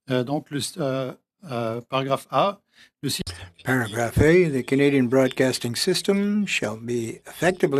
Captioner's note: speaking French